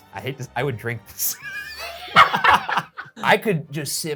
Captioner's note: laughing